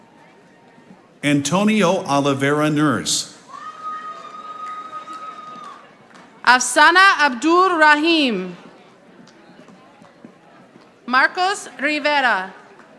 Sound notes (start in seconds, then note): 4.1 audience applauding